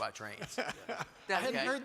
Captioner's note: panelists laugh